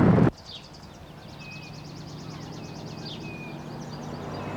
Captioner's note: birds chirping